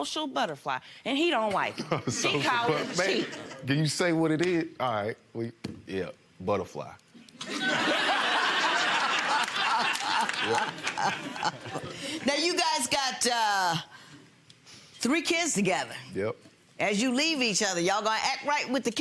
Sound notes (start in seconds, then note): 3.6 laughs; 7.4 audience laughs; 9.3 Lynn laughs